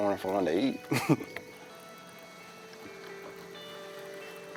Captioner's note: chuckles